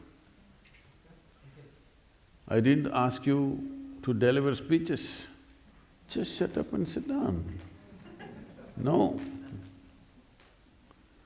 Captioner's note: laughs